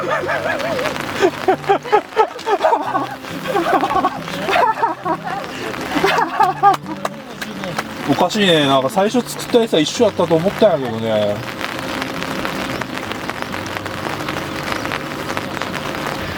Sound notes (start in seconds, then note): 10.5 laugh